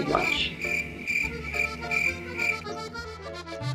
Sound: cricket sounds

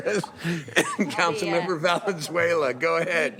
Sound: laughter

